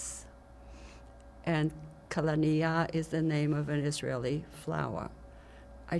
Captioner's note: hebrew; hebrew